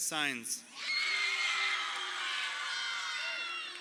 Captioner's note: crowd cheering